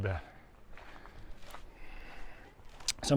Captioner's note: background chatter